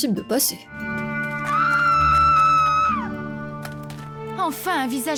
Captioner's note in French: hurlement strident